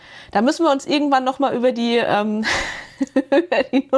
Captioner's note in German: gelächter